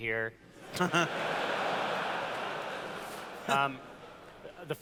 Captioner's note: laughter